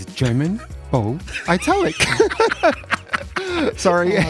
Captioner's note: laughs